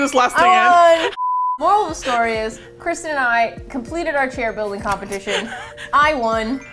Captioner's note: laughs